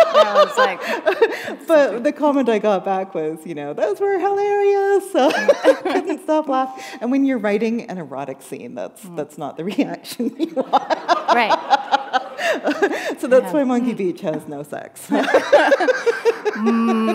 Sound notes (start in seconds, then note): 0.0 laughter; 5.0 chuckle; 11.6 laughter